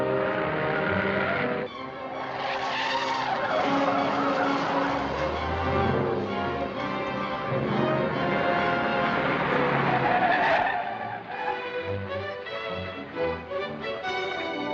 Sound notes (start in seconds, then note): 2.8 tires screeching; 9.0 brakes screeching